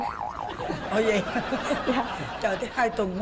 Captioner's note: laughing